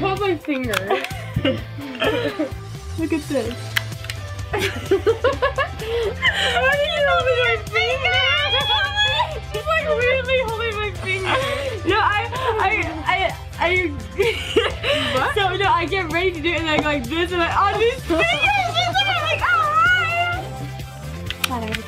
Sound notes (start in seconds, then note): 4.5 laughs; 6.9 squeals